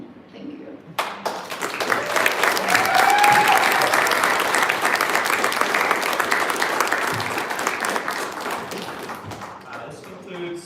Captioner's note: applause